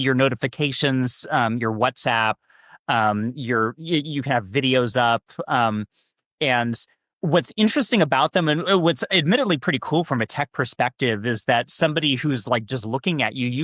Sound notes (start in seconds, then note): none